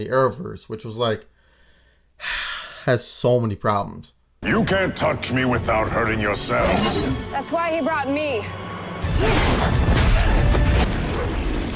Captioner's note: sigh